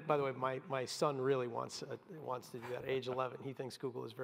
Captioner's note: laugh